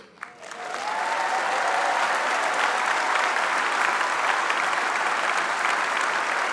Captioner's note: applause